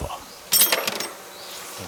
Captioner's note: metallic clinking